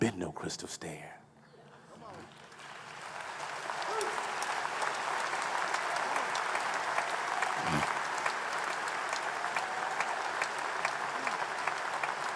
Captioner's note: applause